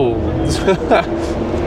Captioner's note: laughing